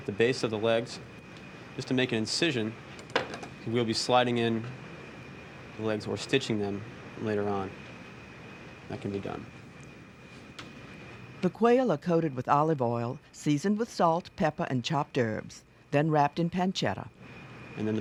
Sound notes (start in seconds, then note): 11.3 voiceover